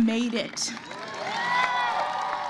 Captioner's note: cheers